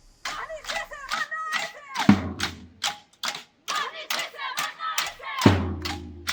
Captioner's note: protesters chanting in Maltese language